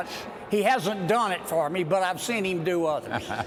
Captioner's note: laughter